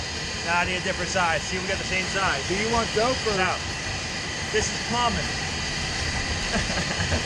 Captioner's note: laughs